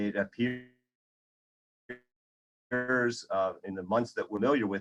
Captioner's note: audio fading away